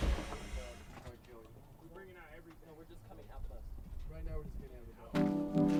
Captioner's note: chattering from inside bus